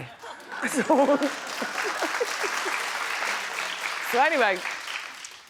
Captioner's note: audience applauds